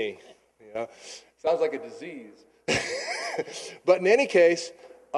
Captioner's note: chuckling